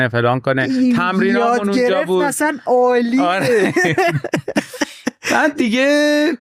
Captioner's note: laughs